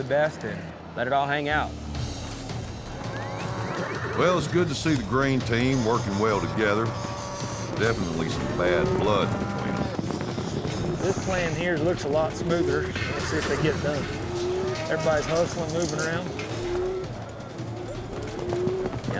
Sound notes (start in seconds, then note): 2.1 cows mooing; 16.6 cows mooing